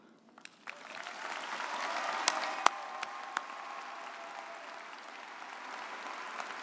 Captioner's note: audience applauding